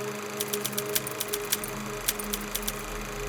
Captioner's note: typewriter keys clack